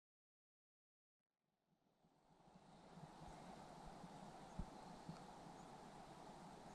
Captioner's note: none